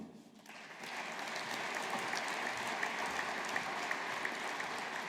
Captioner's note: audience applauding